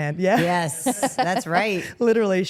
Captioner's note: Rhea laughs